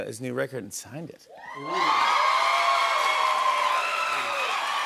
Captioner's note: cheers and applause